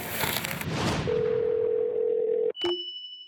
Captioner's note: rustles; phone rings; alert chimes